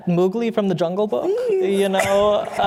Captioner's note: laughter